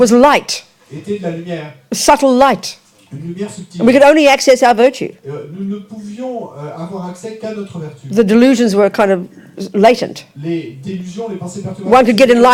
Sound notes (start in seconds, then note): 4.2 speaking in French; 8.2 speaking in French